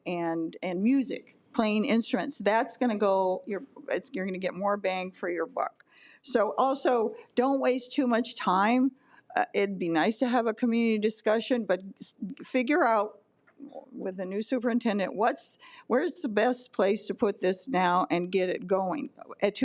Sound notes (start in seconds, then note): none